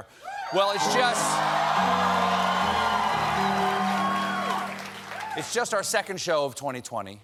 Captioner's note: cheers and applause